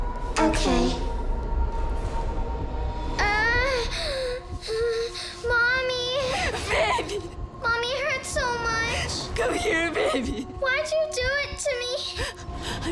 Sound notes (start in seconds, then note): 3.2 cries out